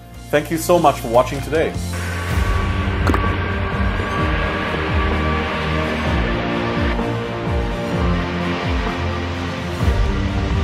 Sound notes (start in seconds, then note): 3.0 aeroplane whirs; 6.5 dramatic instrumental music